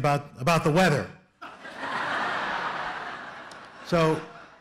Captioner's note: laughter